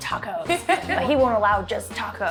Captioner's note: laughs